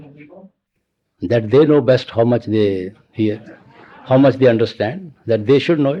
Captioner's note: laughter